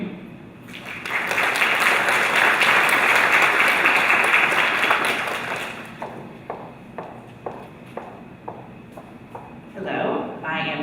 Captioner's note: applause